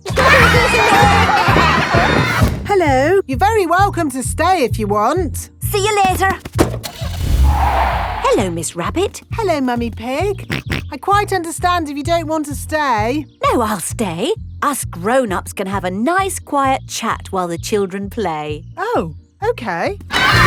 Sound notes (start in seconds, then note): 0.1 laughter; 6.6 car starting; 6.8 tires screeching; 10.7 snorts